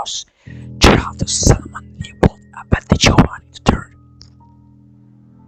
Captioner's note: demonic language which scientists have struggled to translate